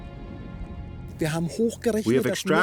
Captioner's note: man speaking German